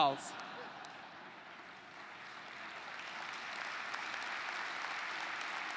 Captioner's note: laugh; applause